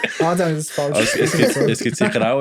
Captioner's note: laughter